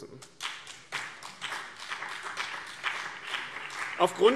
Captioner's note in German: Beifall BÜNDNIS 90/DIE GRÜNEN und CDU